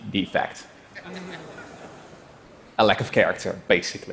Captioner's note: laughter